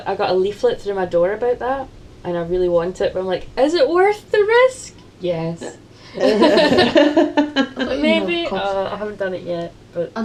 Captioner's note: laughter